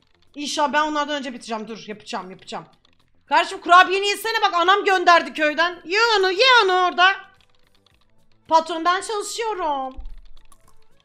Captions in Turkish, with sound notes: İnşallah ben onlardan önce bitircem. Dur yapıcam, yapıcam. (yüksek sesle) Kardeşim kurabiyeni yesene bak anam gönderdi köyden. Ye onu, ye onu orda. Patronum ben çalışıyorumm.